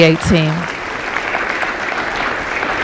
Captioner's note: applause